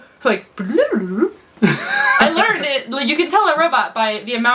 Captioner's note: laughs